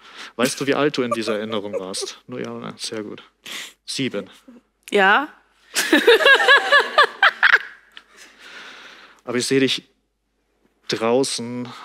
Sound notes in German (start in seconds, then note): 2.3 murmelt; 5.7 Gelächter